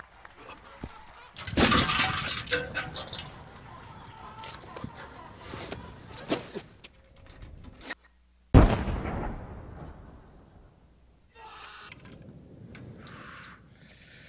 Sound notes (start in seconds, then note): 1.1 grunts; 1.4 thuds; 8.5 booming; 12.0 yelling